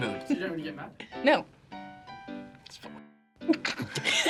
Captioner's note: whispers; both laugh